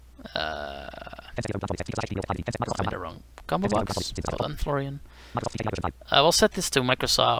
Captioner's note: screenreader reads names of audio devices